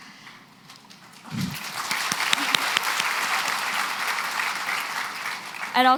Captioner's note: applause